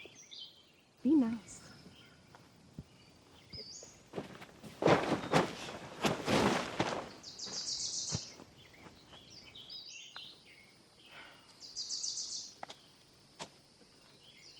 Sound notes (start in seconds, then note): 3.8 tent rustling; 11.4 Donna sighs